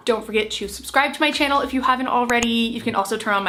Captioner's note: mouse clicking